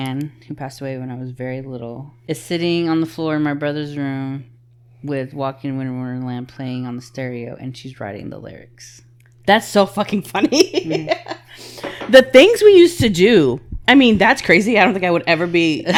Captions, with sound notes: who passed away when I was very little, is sitting on the floor in my brother's room with "Walking In The Winter Wonderland" playing on the stereo and she's writing the lyrics. That's so fucking funny. (laughing) The things we used to do, I mean, that's crazy. I don't think I would ever be--